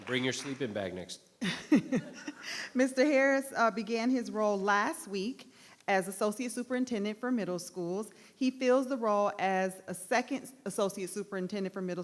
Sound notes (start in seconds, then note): 1.4 laughter